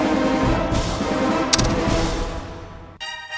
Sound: tsk-tsking

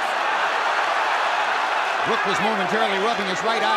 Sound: cheers and applause

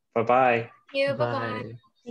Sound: overlapping voices all saying goodbye

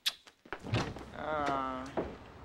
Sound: exclaiming

